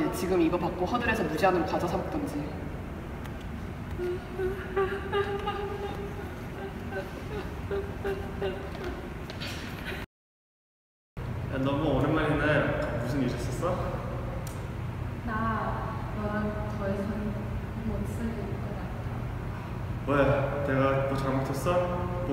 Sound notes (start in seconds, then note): 3.9 sobs sorrowfully